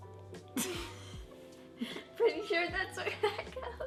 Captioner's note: laughs